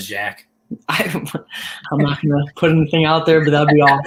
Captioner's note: laughter